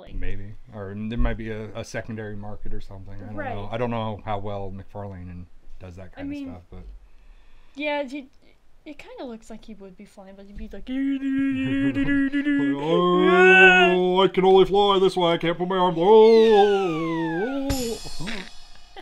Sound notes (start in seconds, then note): 11.0 mocking, funny flying sounds; 16.9 vocalizes